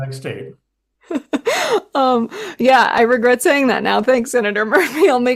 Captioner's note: laughter; laughter